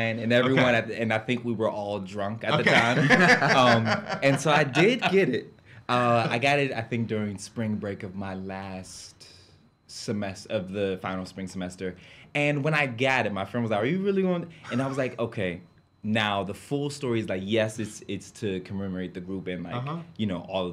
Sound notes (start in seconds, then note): 2.5 laughs